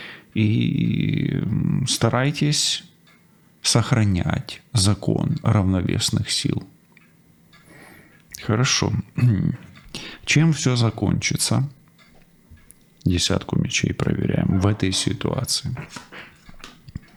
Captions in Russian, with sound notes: и старайтесь сохранять закон равновесных сил. Хорошо. [откашливается] Чем всё закончится? Десятку мечей проверяем. В этой ситуации